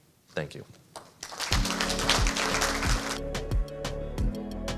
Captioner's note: audience applauding; bright upbeat music